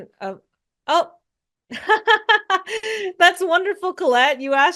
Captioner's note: laughs